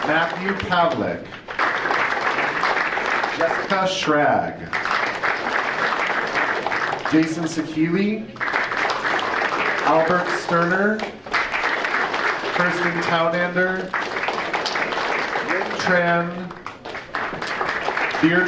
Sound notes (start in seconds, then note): 0.0 audience applauding; 8.2 audience applauding; 11.1 audience applauding; 14.1 audience applauding